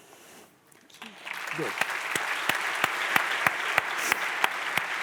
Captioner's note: audience applauds